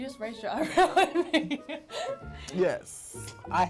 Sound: laughs

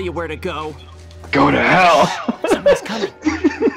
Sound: laughter

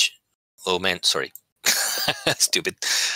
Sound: laughter

